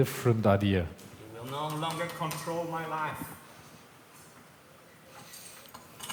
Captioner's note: taps metal